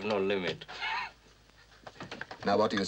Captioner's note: chuckles